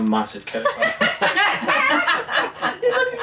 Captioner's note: laughing